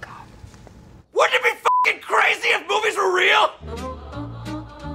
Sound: beep

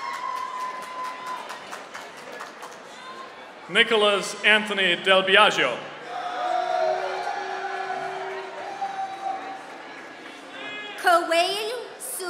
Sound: applause

